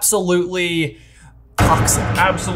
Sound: epic clang

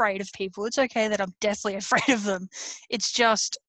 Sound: laughs

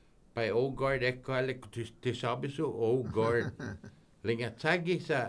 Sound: laughing

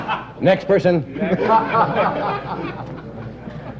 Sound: laughter; big laughter

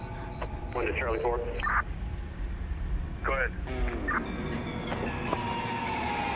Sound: faint police radio chattering; eerie music

